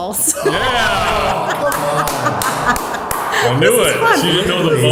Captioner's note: laughing and clapping